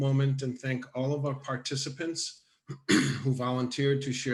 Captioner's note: coughs